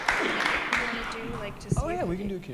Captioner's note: applause